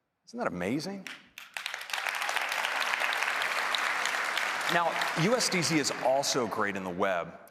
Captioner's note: applause